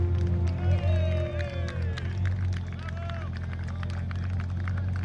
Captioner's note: cheering; clapping